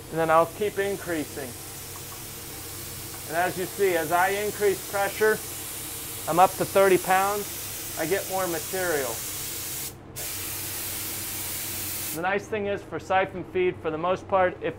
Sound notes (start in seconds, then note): 1.8 paint spraying; 10.1 paint spraying